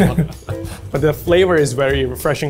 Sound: laughs

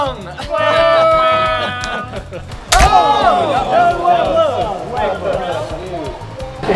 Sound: booing

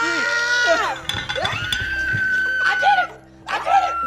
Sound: girl screaming

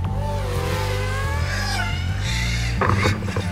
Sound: drone crashing

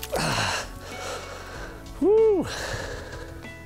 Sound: sharply inhales

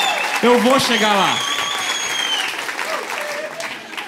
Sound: laughter; applause

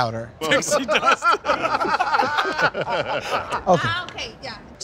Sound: laughing

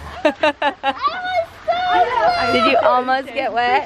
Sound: laughter

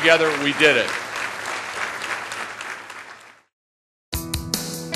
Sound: applause

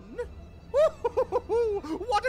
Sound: laughter

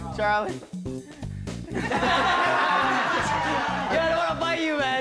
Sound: laughing

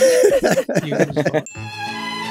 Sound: all laughing

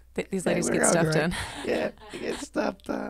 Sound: laughs

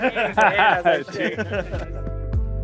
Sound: laughter

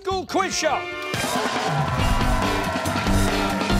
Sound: cheers and applause

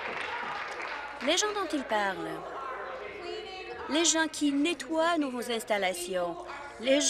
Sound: applause

